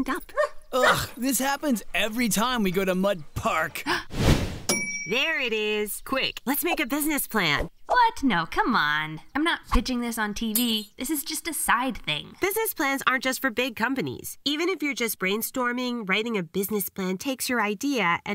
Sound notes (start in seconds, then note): 0.8 barking; 3.8 gasp; 4.7 ding